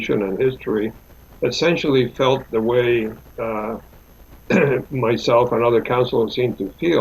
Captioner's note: clears throat